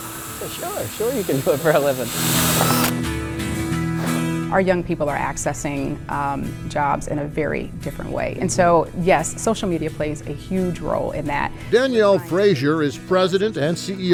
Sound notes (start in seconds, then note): 2.0 drill whirring; 3.2 gentle rock music; 3.2 worker blowing